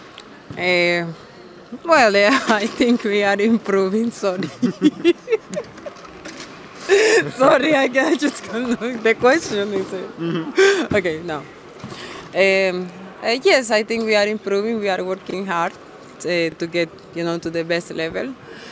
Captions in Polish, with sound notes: Wydaje mi się, że gramy coraz lepiej (śmiech) Gramy coraz lepiej, ciężko trenujemy, żeby znaleźć na najwyższym poziomie.